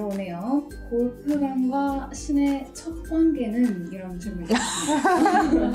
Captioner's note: laughing